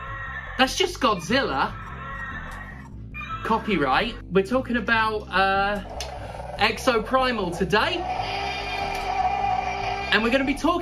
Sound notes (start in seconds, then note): 5.4 dinosaur noises over the following dialogue